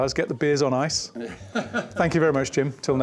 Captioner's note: laughter